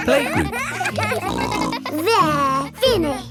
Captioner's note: kids giggling